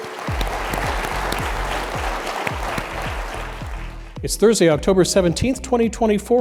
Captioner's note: applause